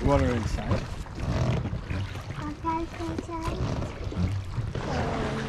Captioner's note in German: Boot knarrt